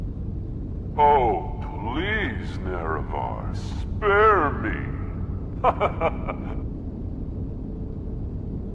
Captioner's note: laughing